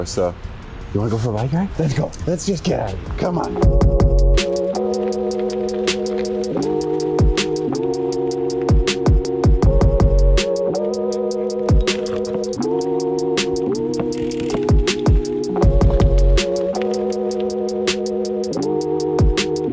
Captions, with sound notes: So you wanna go for a ride, Maya? Let's go. Let's just get out of here. Come on. (Maya panting) (pedals whirring) (chill electronic music continues)